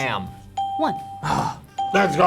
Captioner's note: ping